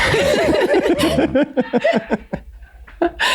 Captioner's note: all laugh